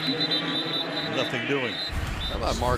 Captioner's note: whistle blows